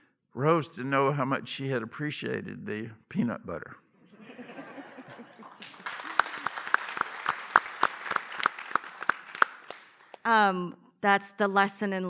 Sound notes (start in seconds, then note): 4.1 laughter, applause